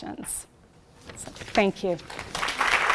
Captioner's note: applause